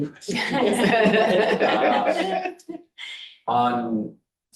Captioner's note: board members chattering and laughing